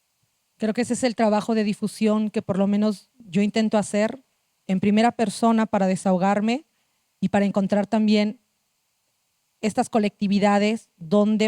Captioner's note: speaking Zapotec language